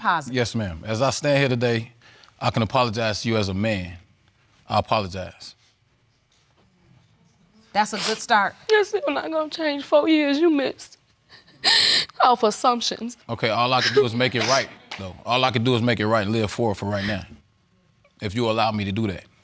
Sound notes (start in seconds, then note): 11.3 sobs